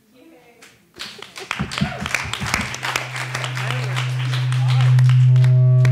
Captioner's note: attendees applauding